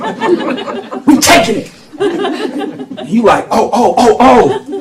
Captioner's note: laughter